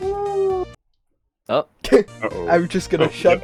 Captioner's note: bug laughs